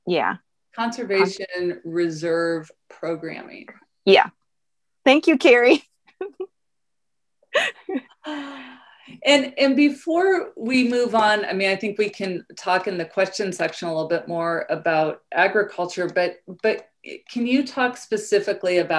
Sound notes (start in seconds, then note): 7.5 laughing